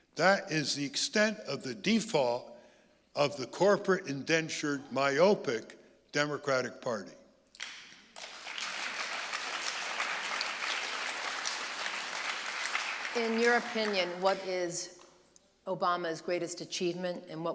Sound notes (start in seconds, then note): 7.6 audience applauding